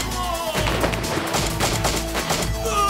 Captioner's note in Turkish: si̇lah sesleri̇